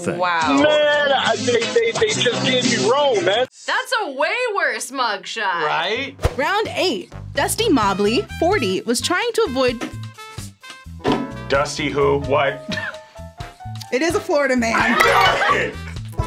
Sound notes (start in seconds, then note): 14.8 laughs